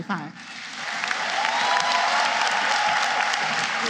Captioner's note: applause